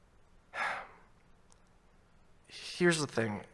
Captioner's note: sighing